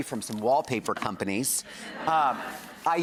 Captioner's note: audience laughs